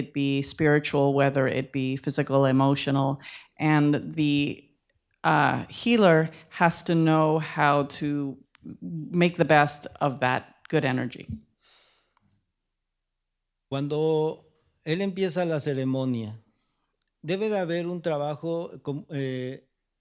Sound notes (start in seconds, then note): 15.0 speaking spanish